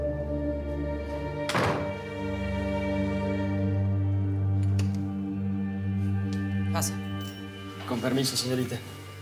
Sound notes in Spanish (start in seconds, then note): 5.0 sonido al abrir la puerta